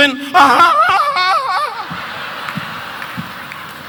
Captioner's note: Don screaming; audience laughing